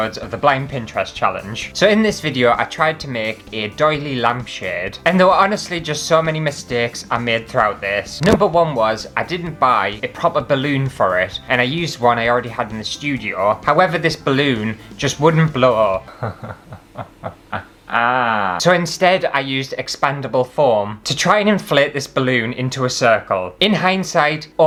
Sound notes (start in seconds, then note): 16.0 hysterical Laughter